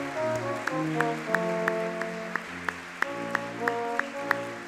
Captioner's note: audience clapping